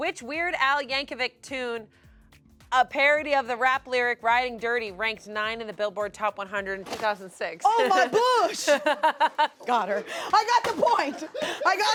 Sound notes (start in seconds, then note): 7.6 laughs